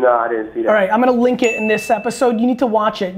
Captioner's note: bright bell rings